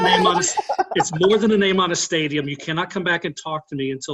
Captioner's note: laughing